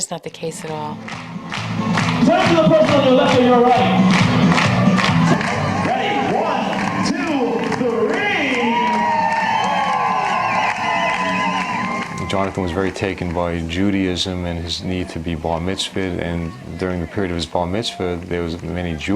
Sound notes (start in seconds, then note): 2.0 clapping; 2.0 fun exciting music; 9.5 cheering